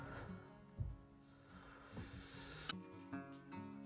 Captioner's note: sighs; water running